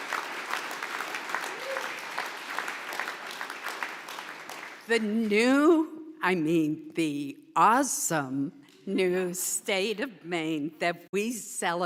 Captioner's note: applause